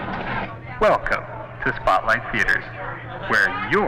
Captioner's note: man On PA